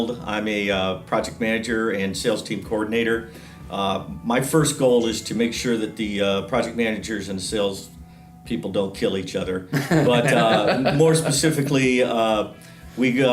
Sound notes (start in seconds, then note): 9.8 everyone laughs